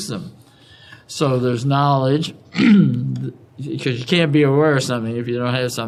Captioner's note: cough